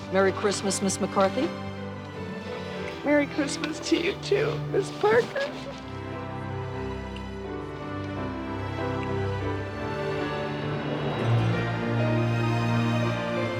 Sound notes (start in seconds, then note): 6.7 crying; 10.6 triumphant music